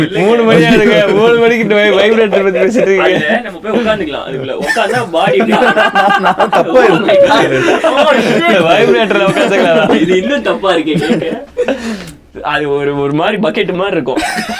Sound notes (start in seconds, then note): 2.9 group laughs; 5.3 group laughs; 11.4 group laughs